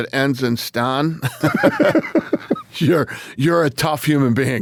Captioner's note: both laughing